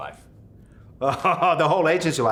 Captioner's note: laughs